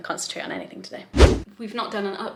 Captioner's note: whooshing sound